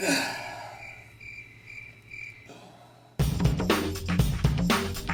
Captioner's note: student sighs; upbeat music